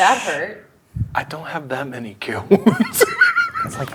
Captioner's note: laughs